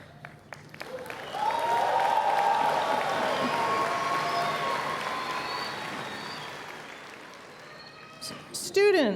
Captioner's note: cheers and Applause